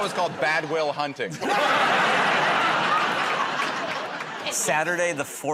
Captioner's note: laughter